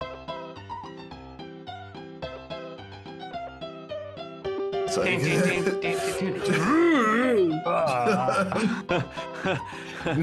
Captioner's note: laughter